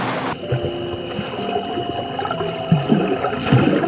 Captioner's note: water bubbling